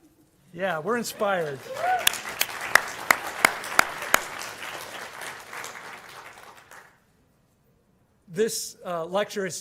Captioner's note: applause